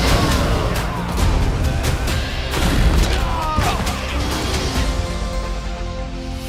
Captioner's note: dragon roars